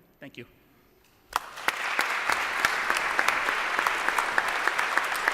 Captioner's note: applause